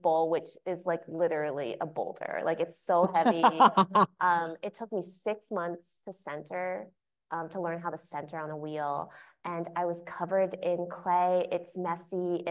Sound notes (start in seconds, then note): 3.0 laughing